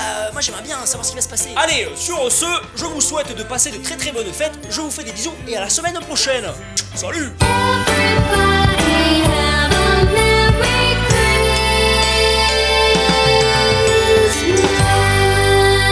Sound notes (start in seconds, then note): 6.7 making kisses